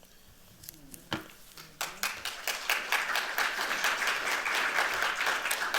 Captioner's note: applause